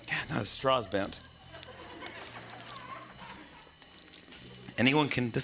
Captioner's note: laughter